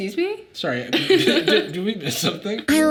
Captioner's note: Sadie laughing